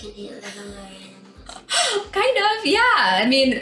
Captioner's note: laughing